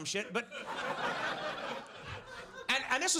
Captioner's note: audience laughs